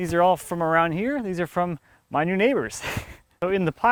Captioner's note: laughs